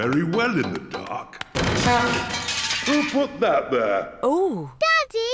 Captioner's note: crashing